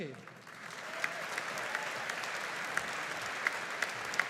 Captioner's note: audience applauding